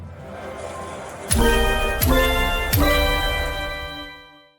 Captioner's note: slot machine sound